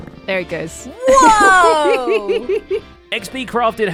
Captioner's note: giggles